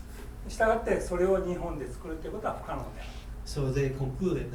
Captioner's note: speaking in foreign language